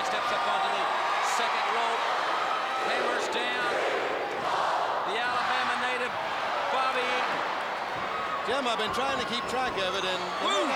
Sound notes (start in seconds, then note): 3.9 crowd cheering